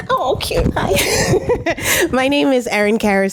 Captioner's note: laughs